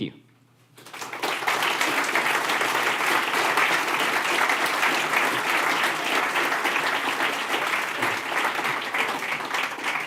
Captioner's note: applause